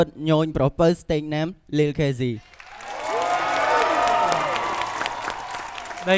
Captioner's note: cheering